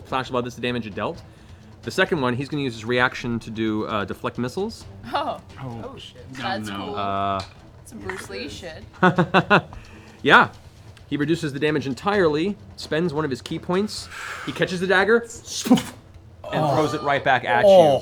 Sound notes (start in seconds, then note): 8.0 laughs